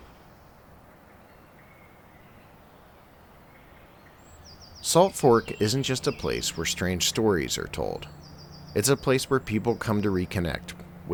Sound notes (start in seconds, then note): 1.4 birds chirping